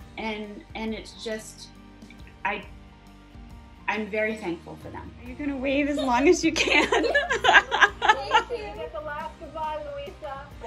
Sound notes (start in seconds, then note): 5.9 laugh